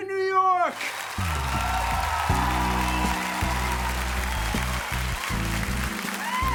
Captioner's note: imaginary audience applauding and cheering